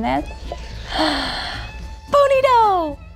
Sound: gasps

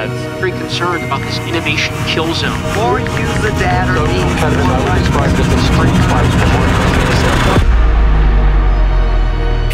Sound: sound bytes continue and fade out

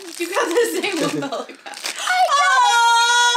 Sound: laughs

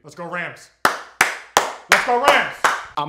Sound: applauding

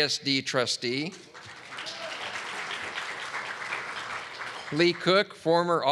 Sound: audience clapping

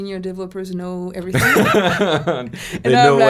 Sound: laughs

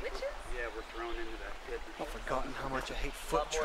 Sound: fun/chatter

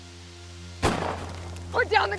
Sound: gunshot fires

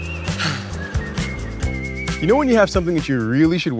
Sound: man sighs

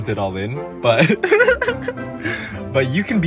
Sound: giggles

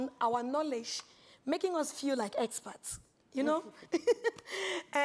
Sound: laughs

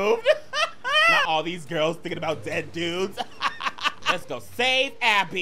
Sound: laughing; laughing

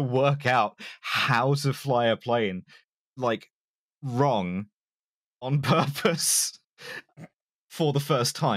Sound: barely laughing

